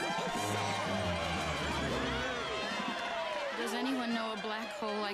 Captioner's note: applause and cheering